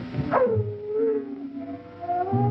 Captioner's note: dog howling